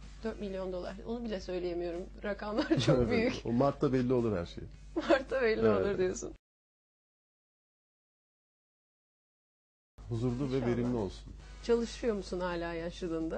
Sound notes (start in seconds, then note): 7.0 video has no audio in this section